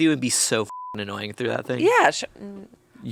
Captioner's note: beep